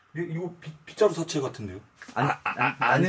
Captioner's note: stutter